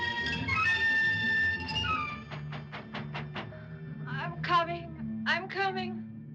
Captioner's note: Knocking